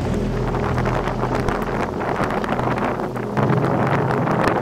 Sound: muffled raindrops

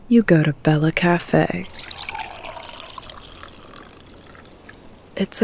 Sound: coffee being poured

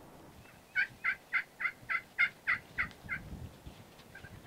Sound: turkey yelping

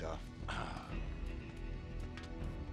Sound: groan

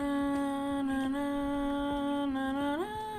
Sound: now cat is humming again

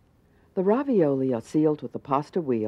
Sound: voiceover

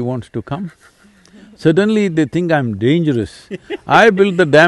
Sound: laughs

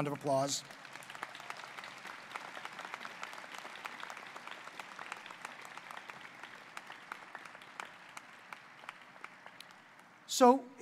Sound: applause

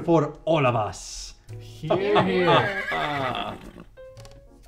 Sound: horse whinny

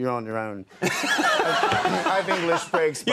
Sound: Conan laughs; audience laughing

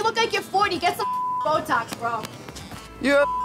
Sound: beep

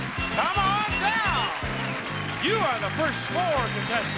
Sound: audience cheering

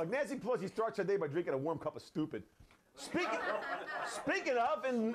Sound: laughter

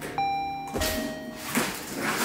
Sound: door bell rings

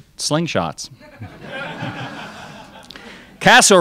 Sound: crowd laughs

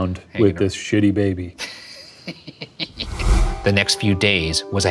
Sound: laughing

